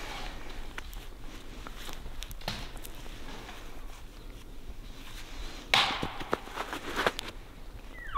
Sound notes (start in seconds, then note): 6.3 caller raking